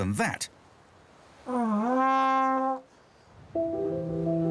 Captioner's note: bellowing